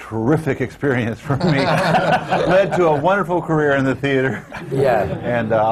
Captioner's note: laughter